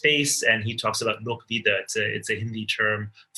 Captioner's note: speaks in foreign language